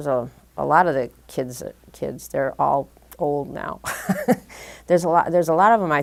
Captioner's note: chuckle